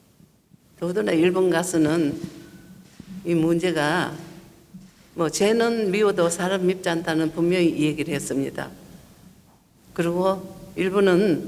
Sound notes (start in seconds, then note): 1.1 speaking foreign language